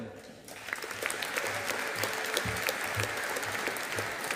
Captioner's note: audience applauding